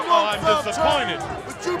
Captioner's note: crowd chatter